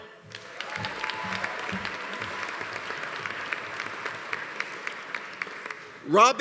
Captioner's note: audience applauding; audience cheering